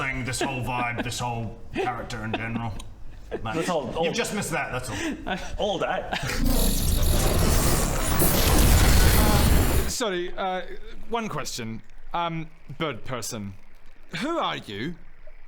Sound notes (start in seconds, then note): 6.4 arcane whooshing noises